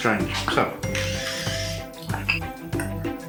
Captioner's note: salt grindin